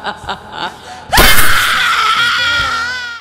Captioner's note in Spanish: Risa malévola; chillido de mujer gritando